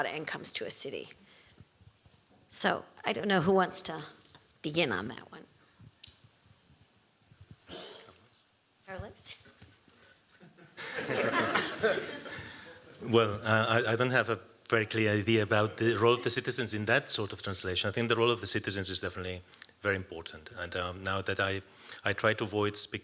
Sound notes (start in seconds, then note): 10.3 laughter